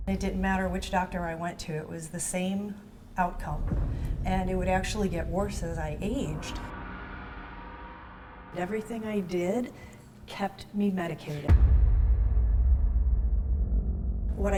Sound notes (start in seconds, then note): 3.2 tense drumming music; 6.5 gong clanging; 11.5 tense drumming music